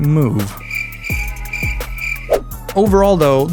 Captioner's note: crickets